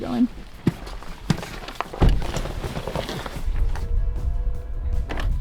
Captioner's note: equipment rustles